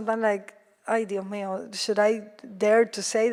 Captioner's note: speaks foreign language